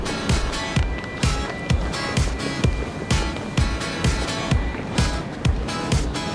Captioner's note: luggage trolley rolling